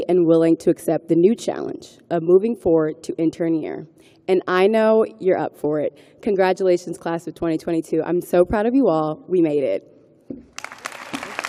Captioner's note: applause